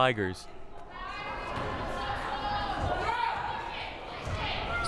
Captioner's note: crowd cheering